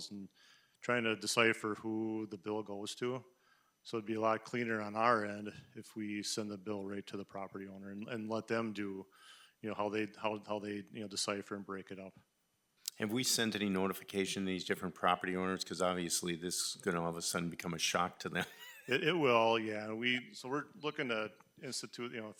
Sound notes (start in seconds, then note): 18.2 chuckles